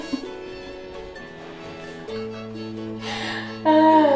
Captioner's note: laughing